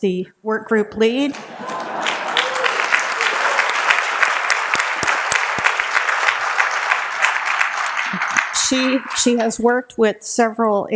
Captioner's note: applause